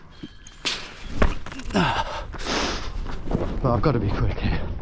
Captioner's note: feet stomping